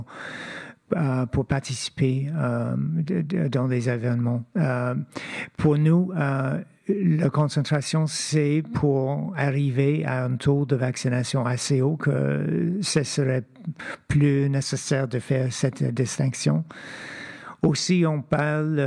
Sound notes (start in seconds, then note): 8.4 speaking French